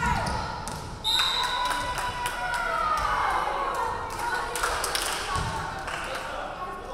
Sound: referee whistling; crowd clapping

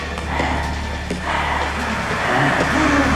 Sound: Freddy panting

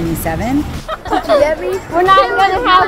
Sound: children laughing

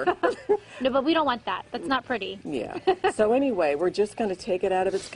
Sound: laughter

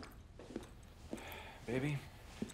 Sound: sighs

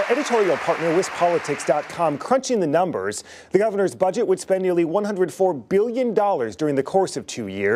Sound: applause

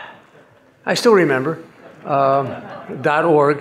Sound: audience laughing

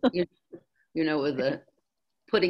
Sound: laughs

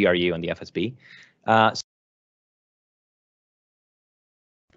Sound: audio cuts out

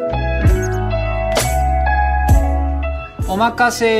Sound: text squeaking

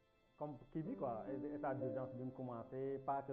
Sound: television playing

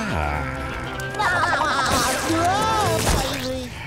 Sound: laughing

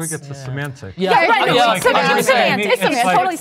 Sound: group chattering

